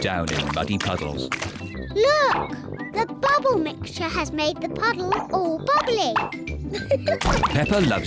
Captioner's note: laughs